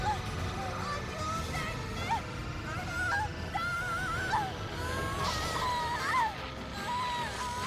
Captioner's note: zaps; scream; intense music and zaps